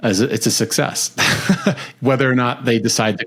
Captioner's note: laughs